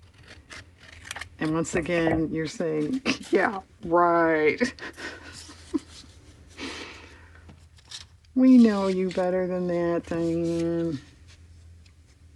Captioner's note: laughs